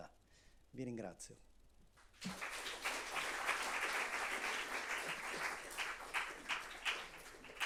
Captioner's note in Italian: Applauso